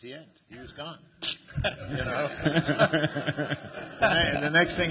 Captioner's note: laughter